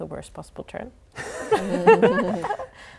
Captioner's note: laughing